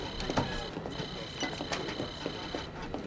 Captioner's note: computer trilling and beeping